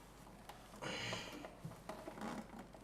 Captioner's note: breathing